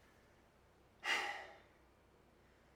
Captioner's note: sigh